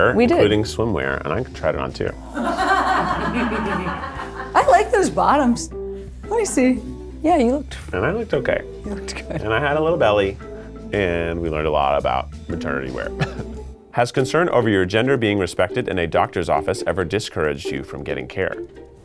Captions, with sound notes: including swimwear, and I got to try it on too. (people laughing) - I like those bottoms. Let me see. Yeah, you looked... - And I looked okay. - You looked good. - And I had a little belly, and we learned a lot about maternity wear. (laughs) "Has concern over your gender being respected in a doctor's office ever discouraged you from getting care?"